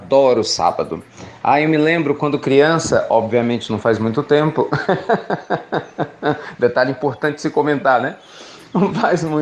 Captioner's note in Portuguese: risos